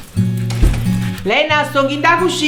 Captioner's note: close house door